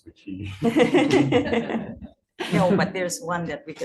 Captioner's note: laughing